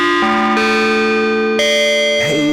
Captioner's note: an Evil chime